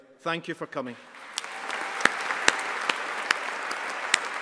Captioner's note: all applauding